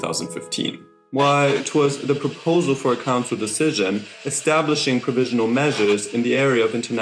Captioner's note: in a posh accent